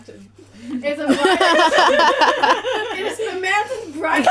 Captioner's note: laughter